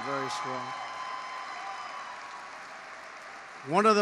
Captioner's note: applause